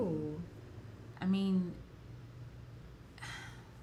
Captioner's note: sighs